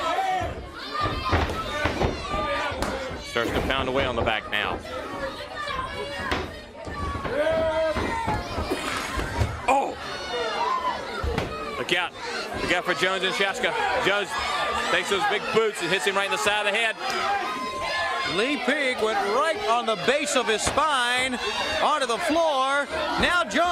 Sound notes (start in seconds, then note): 7.9 crowd chatter